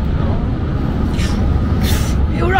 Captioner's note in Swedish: Norrländsk inandning